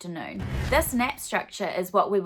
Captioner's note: swooshing